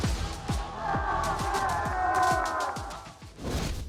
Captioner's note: cheering